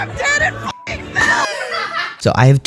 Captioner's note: laughter